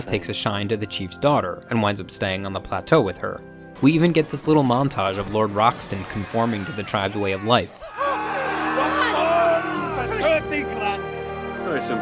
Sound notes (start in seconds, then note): 8.2 man screaming; 9.5 foreign language